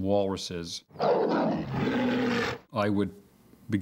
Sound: growling

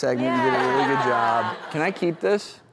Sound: audience laughs

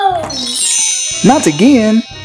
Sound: magic sound chimes

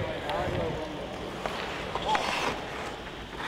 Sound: hockey sounds

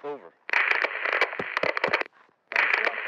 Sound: static sound

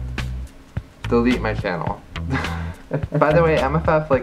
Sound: laughs

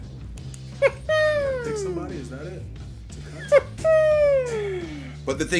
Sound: laugh

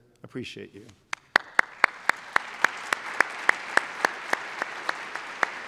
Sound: applause

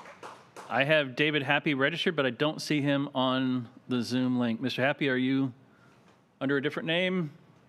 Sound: applause

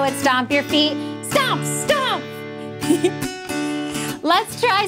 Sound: giggling

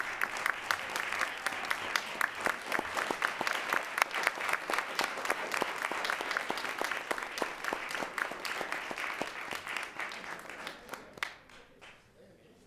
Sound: applause

